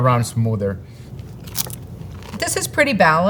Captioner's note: mouth crunching